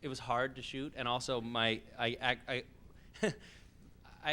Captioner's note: laughs